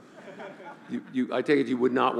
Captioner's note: laughing